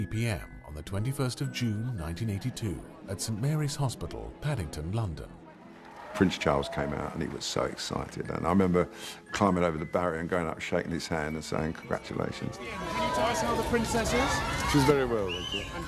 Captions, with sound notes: on the 21st of June 1982 at Saint Mary's Hospital, Paddington, London. - Prince Charles came out and he was so excited. I remember climbing over the barrier and going up and shaking his hand, and saying, "Congratulations." - [Voiceover] Can you tell us how the princess is? - She's very well, thank you.